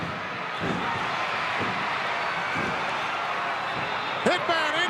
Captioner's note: crowd cheering